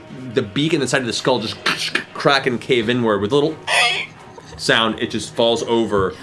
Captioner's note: squeak